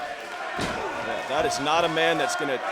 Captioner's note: crowd cheering